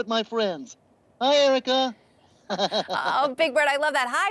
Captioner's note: laughing